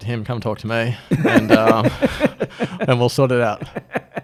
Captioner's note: laughs